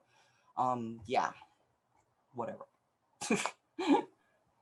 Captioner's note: laughs